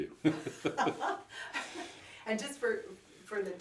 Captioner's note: both laugh